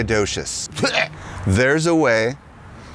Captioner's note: gags